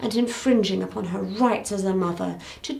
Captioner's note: none